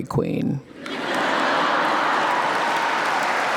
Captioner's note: crowd cheering